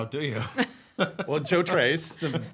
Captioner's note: chuckling